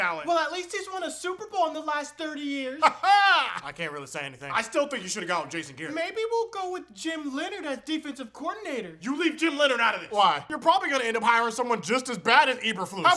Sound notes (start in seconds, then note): 2.8 weird laughter